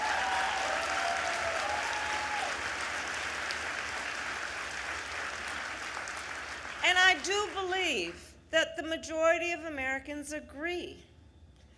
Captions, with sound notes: (Applause.) And I do believe that the majority of Americans agree